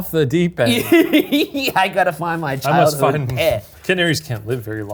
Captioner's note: laughs